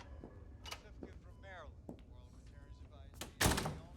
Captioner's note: TV Host speaking on TV; door clicks shut